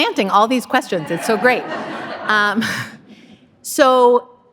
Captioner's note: audience laughing